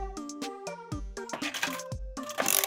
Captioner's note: coin inserted into capsule machine